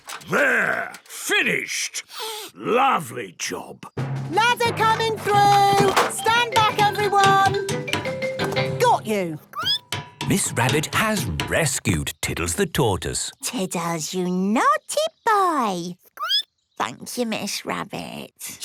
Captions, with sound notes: - There! Finished! Lovely job! - Ladder coming through! Stand back everyone! Got you! (squeaking) - Miss Rabbit has rescued Tiddles the Tortoise! - Tiddles, you naughty boy! (squeaking) Thank you, Miss Rabbit!